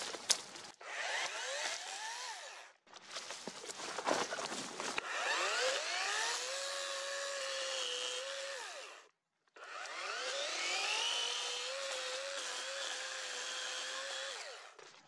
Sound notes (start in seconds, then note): 0.7 chainsaw running; 2.9 leaves and branches crackling; 5.0 chainsaw running